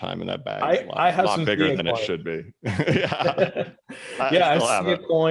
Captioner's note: laughs